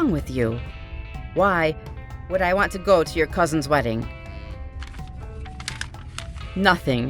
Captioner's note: paper rustles